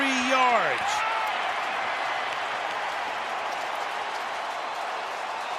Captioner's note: cheering